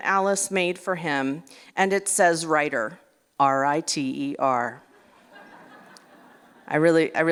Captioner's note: laughter